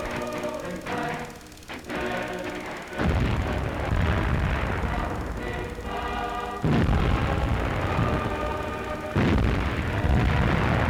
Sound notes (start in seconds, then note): 0.0 military tune plays; 4.1 bombs exploding